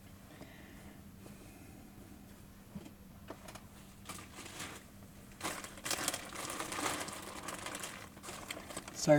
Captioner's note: plastic crinkling